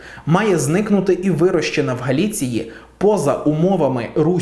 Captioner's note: Ukrainian